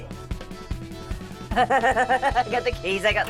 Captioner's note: laughs